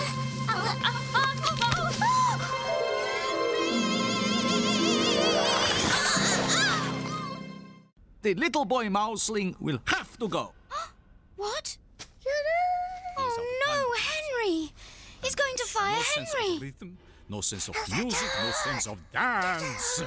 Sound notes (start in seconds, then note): 11.2 gasps